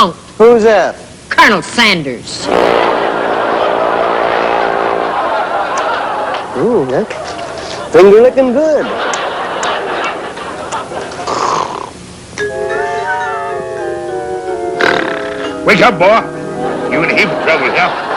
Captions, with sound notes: - Who's that? - Colonel Sanders! [laughter] Ooh, that's- finger lickin' good! [laughter] [snoring] Wake up, boy! You in a heap of trouble, hear?